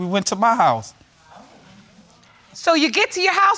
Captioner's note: audience murmuring